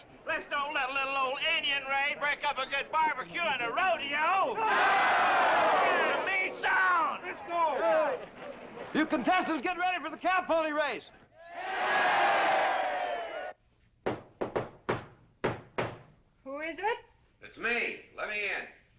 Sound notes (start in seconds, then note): 4.5 cheering; 11.4 cheering; 14.0 knock on door